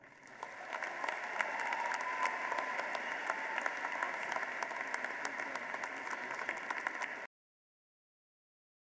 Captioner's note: applause